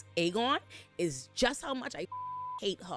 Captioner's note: beep